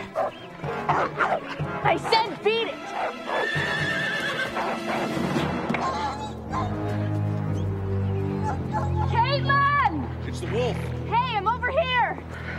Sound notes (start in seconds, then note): 0.6 wolf barks; 2.9 horse neighs; 5.6 wolf whimpers